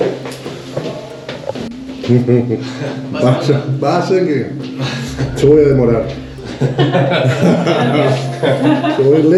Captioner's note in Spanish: risas